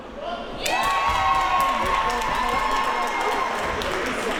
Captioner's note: crowd cheers